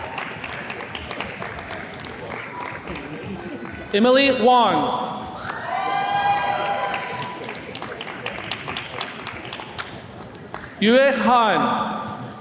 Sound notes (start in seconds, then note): 5.3 attendees cheering